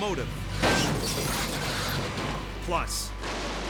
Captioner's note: train thuds